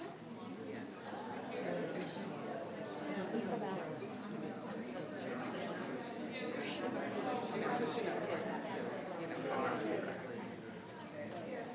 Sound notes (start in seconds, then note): 0.9 people chattering